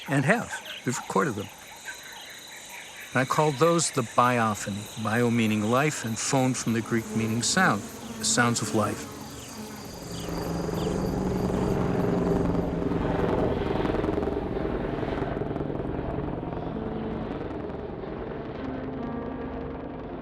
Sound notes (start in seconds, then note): 10.7 helicopter flying; 17.7 slow piano music